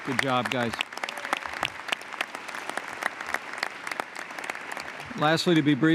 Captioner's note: applause